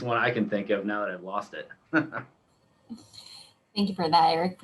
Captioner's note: chuckles